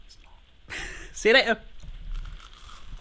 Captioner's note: laughing